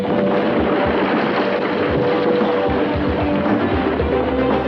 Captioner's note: gunshots firing; explosions booming